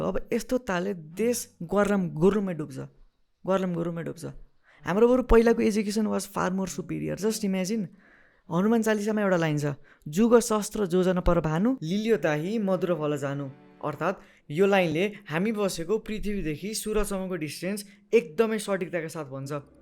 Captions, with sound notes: If this is to be continued, the country will crumble. The country will crumble and drown Our old education was far more superior, just imagine, There is a line in Hanuman Chalisa *SPEAKS SANSKRIT* meaning, This line, clearly mentions the distance between earth and the sun